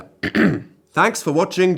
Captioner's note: clears throat